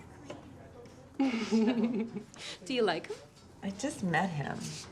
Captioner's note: giggles